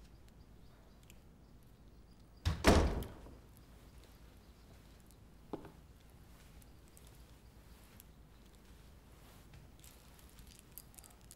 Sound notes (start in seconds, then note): 2.4 the door closing sound; 8.8 silence